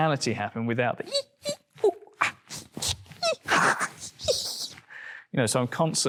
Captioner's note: mouse noises